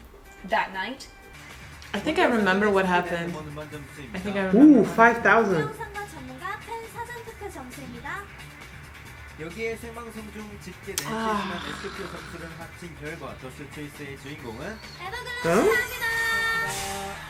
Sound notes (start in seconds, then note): 2.0 speaking Korean